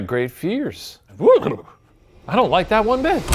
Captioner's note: shivers